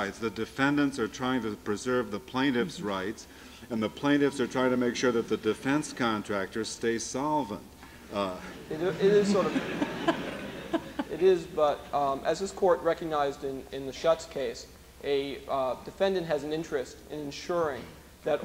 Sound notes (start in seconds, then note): 9.9 laughter